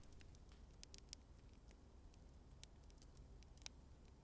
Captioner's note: flames crackling